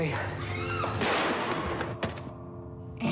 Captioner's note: gunshot